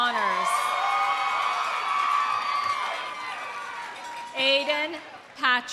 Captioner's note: audience cheering; audience applauding